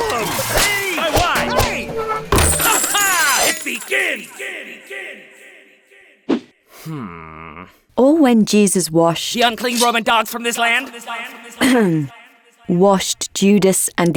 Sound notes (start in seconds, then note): 0.0 objects clattering; 0.5 whip whooshing and cracking; 2.2 table crashing; 2.4 coins clattering; 3.7 echoing; 6.5 sword whooshing; 6.8 Judas groans; 9.5 echoing; 11.6 clearing throat